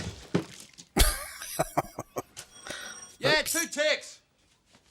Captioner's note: laughing